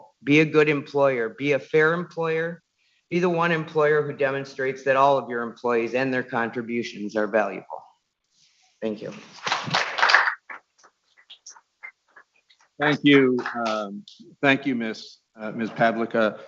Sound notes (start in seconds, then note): 9.1 people clapping